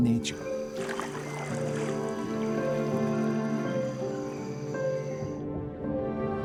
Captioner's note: birds chirping; water sloshing; water bubbling